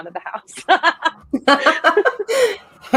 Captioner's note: laughing